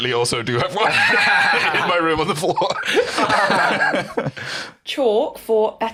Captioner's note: both laughing